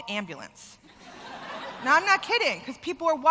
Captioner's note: laughter